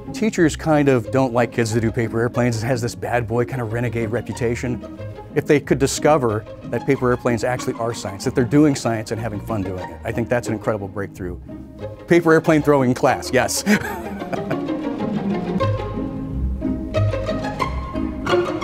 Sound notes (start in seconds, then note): 13.5 chuckles